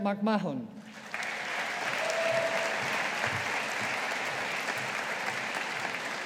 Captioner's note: audience applauding